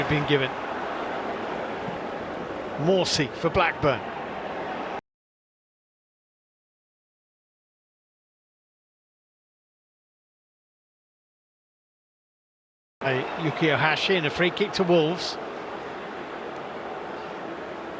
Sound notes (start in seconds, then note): 4.5 audience oohs